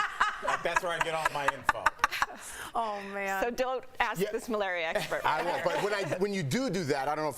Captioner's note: laughter